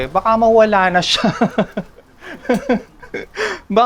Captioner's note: laughs